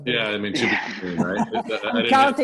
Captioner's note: both laughing